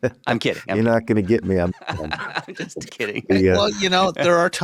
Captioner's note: laughs